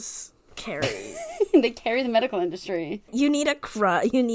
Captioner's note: laughs